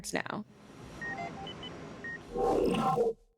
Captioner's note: device beeping